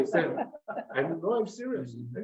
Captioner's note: members laugh